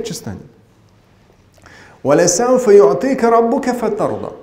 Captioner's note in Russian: Говорит на арабском